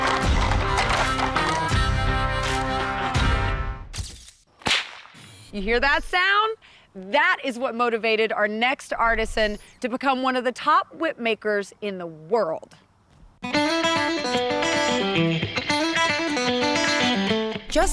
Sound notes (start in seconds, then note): 4.6 whip cracking